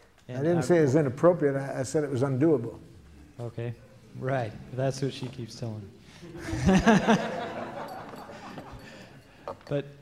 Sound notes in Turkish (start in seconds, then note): 6.2 Gülüşmeler